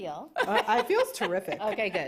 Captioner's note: laughs